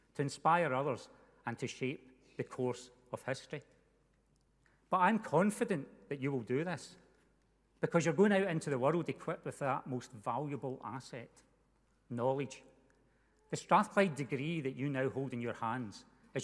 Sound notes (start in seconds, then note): none